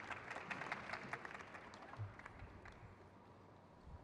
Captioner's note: crowd cheers